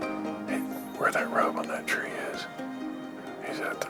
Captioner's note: offscreen, whispering